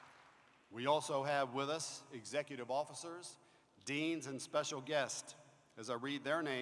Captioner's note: applause